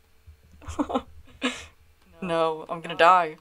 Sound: laughter

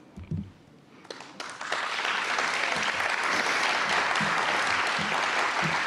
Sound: audience applauding

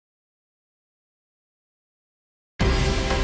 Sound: silence

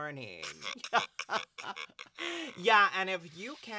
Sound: laughter

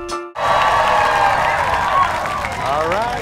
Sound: audience cheering

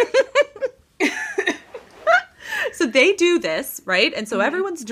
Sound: both laughing

